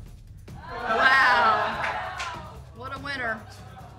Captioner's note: audience exclaiming